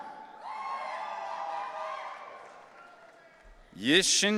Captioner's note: audience cheering